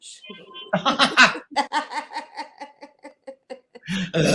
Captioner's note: laughing